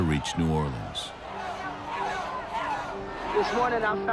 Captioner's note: people chanting